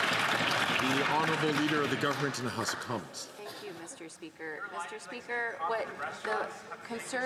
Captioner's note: some Applause